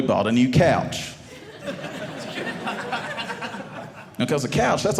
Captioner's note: audience laughing